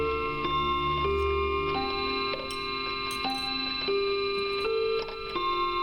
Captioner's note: clock chiming continues